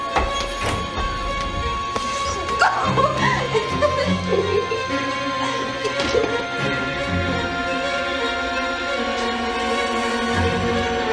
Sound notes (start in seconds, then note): 0.1 dramatic music; 2.1 laughs; 6.3 dramatic music continues